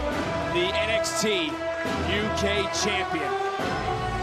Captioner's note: crowd cheers